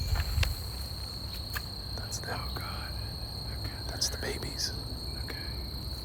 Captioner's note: excited whispering